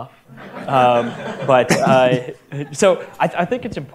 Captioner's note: audience laughter